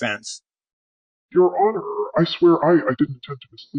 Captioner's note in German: verzerrt, stammelnd